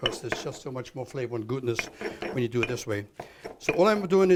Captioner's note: chopping